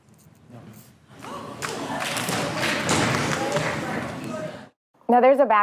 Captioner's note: gasping, applause